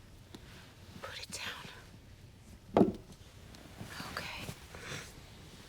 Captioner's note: none